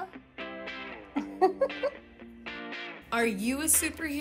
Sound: laughs

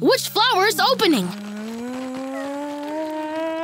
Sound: yawning

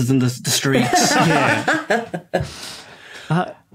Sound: group laughing

